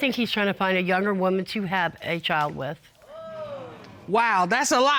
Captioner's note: audience exclaiming